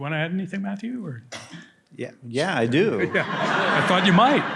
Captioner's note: laughter